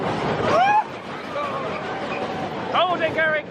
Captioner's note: screams